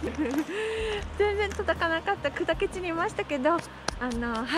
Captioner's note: laughs